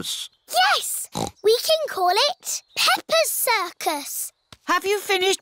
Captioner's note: snorts